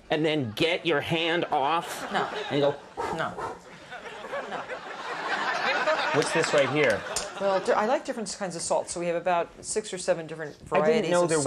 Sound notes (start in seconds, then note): 3.2 blowing air; 3.6 audience laughing